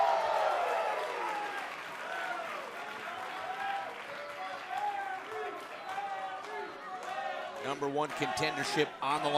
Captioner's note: cheers & applause